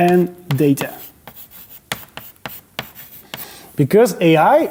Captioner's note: chalk clacking